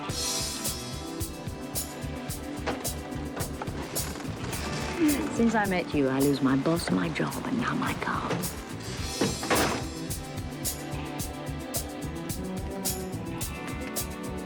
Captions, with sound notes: (dramatic music) (doors creaking) - Since I met you, I lose my boss, my job and now my car. (dramatic music continues)